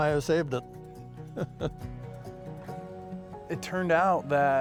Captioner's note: chuckles